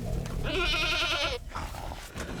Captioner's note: goat bleats